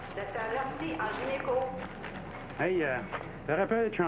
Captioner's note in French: Voix de femme